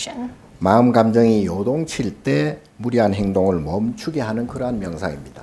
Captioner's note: speaking Korean